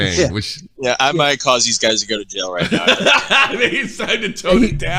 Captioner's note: laughing